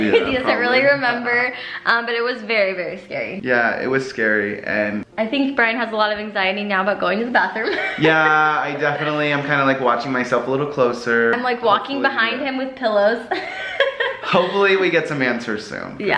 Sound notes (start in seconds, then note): 13.3 laughs